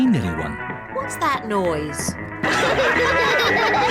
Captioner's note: all laugh